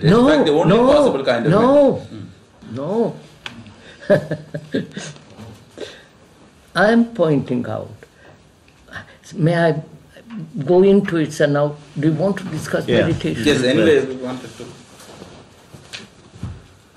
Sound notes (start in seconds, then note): 3.7 laughs